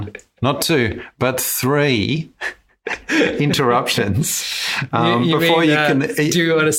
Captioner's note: laughs